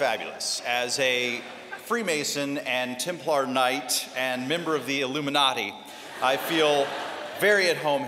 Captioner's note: laughter; laughter